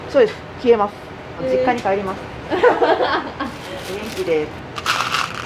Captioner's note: laughter